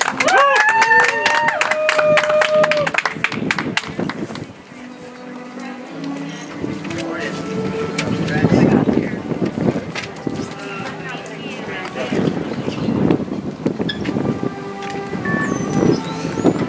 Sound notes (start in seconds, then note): 3.3 audience applauds; 8.2 soft music